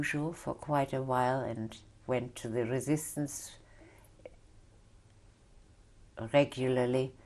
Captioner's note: pauses for 3 seconds